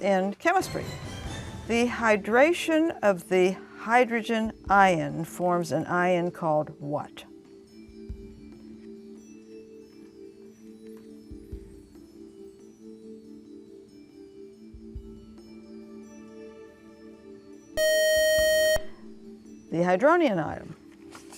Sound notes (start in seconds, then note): 17.8 buzzer